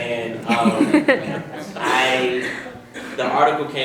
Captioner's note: audience laughs